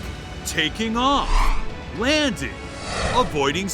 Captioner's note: airplane sounds